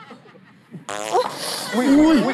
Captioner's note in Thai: ผายลม